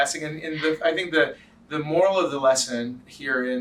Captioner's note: laughs